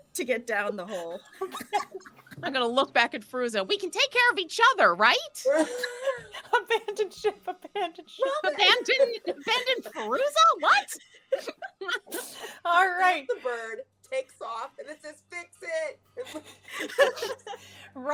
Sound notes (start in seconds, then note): 8.9 laughing; 11.6 laughing; 16.2 laughing